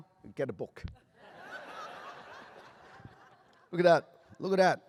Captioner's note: laughter